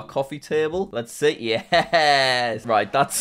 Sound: laughs

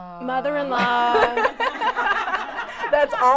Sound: laughter

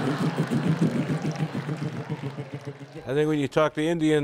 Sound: laughter; simulates drum noise

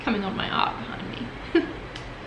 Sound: laughs

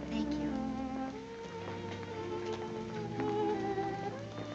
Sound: footsteps approaching

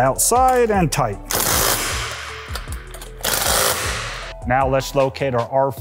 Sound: torque wrench buzzing

